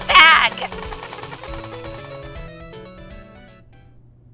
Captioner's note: “Ray gun” firing!